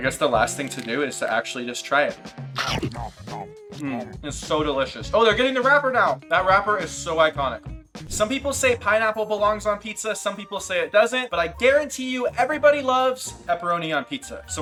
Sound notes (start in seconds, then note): 2.6 comical chewing; 2.6 upbeat music